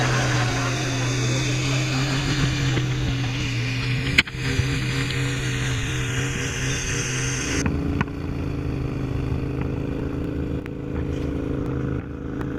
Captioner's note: laghter Applause; sound of outboard motor